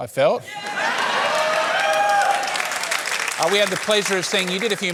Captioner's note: cheering, applause